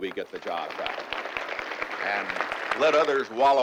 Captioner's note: applause